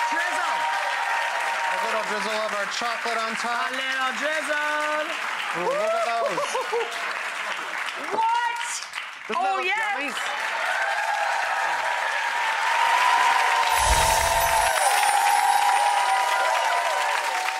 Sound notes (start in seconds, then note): 10.5 audience applause; 13.7 twinkling